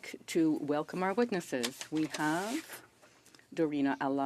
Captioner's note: speaking French